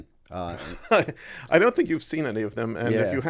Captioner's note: chuckle